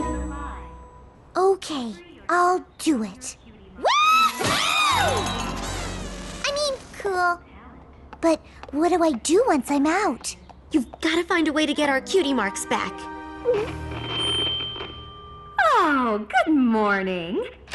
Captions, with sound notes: OK. I'll do it. WOO-HOO! I mean, cool. But what do I do once I'm out? You've got to find a way to get our Cutie Marks back. [gulp] [feedback] Oh, good morning!